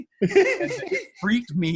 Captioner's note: laughing